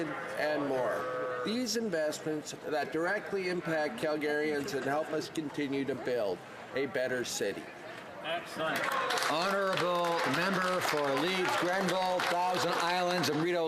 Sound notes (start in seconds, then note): 11.9 some Applause